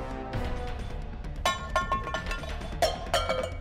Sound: cans dropping

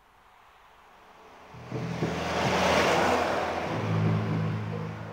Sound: car whoosh

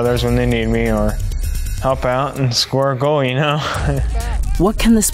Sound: laughs

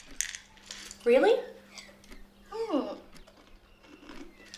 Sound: shrugging noise

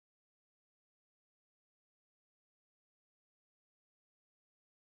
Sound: silence

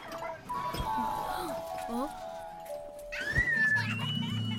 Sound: children laughing; child gasping; child screaming; child laughing

